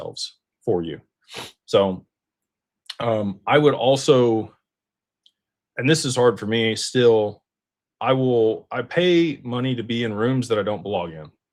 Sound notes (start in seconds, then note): 2.2 snorts